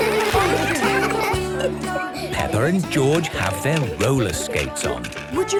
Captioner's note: laughter; giggling